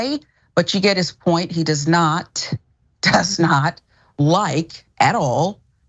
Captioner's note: laugh